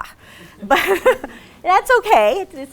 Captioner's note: laughs